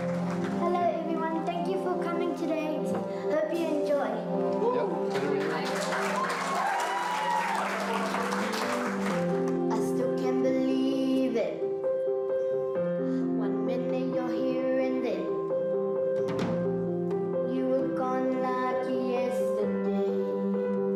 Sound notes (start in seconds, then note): 5.0 cheering, applause; 7.0 gentle piano music plays